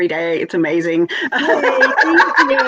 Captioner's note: laughs